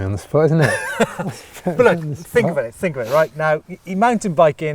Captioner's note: laughs